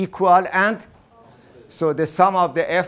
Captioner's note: class in unison